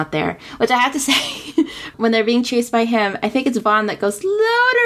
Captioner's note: laughs